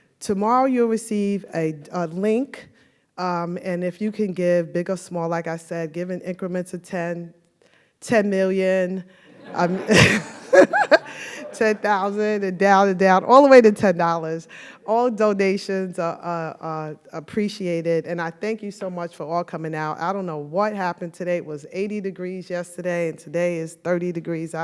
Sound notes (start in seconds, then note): 9.3 audience laughs; 9.5 laughs